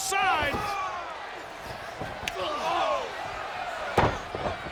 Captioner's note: wrestlers grunting